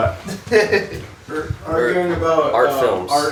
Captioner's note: laughing